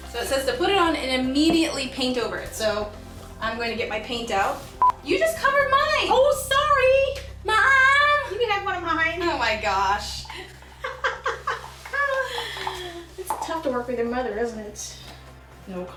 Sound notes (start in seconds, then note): 4.8 beep; 10.2 laughing